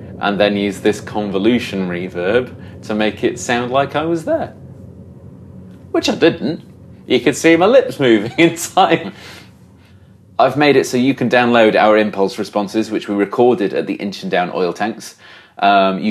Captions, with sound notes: and then use this convolution reverb to make it sound like I was there. Which I didn't, you could see my lips moving (laughs) in time. I've made it so you can download our impulse responses, which were recorded at the Inchindown oil tanks.